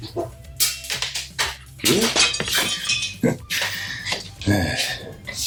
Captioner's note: crashing and glass breaking